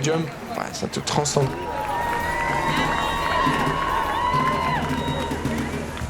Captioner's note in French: acclamation